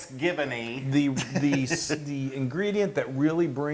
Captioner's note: laugh